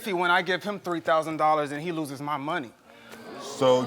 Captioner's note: audience groans